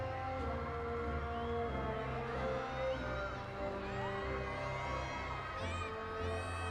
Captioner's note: audience continues cheering